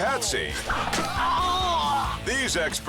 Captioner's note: victim groans